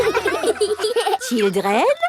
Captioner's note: children laughing